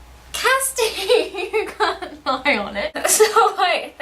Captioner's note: laughing